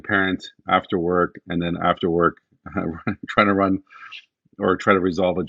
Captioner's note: laughs